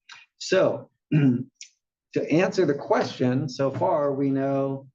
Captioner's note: cough